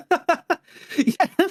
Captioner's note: laughing